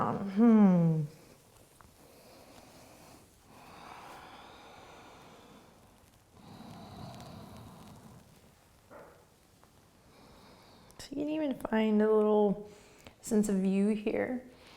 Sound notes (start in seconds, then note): 1.6 breathing